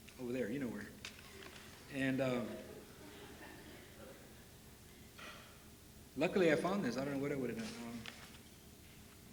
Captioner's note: laughter